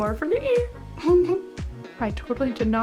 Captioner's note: giggle